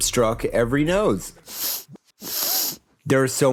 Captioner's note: sniffing Noises